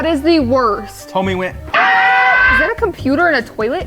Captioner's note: screams